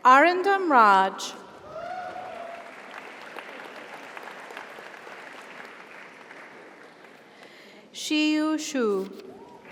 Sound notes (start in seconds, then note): 1.7 audience cheers; 1.8 audience applauds